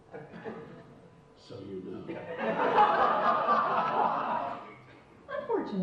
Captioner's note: audience laughs